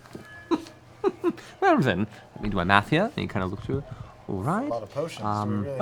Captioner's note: chuckles